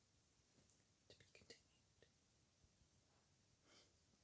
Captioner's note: whisper